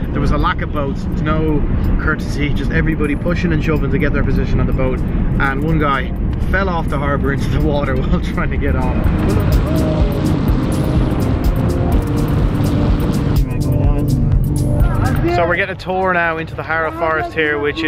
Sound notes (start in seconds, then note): 9.3 wind whooshing; 10.8 upbeat music